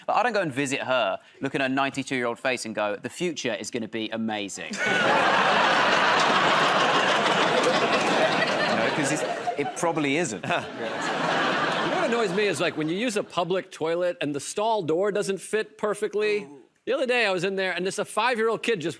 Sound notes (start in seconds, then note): 4.7 laughter and applause; 10.7 laughter